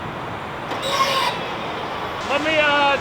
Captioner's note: winch screeching